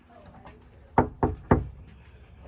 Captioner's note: knock knock knock